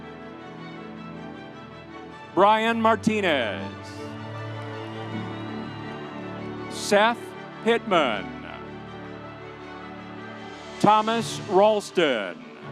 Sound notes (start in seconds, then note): 4.0 audience cheering; 8.5 audience applauding